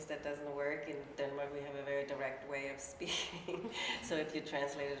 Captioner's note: laughs